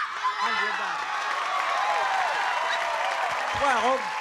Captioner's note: applause and cheering